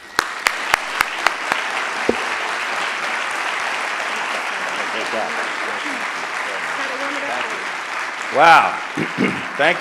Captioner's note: applause